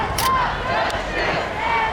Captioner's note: crowd